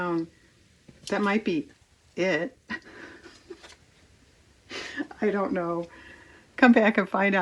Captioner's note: laughs